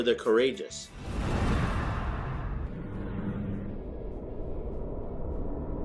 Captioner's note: woosh